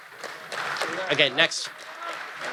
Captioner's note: audience applause